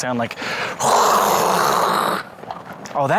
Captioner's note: makes aggressive wind whooshing noise